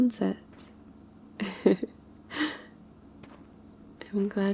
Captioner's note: laughs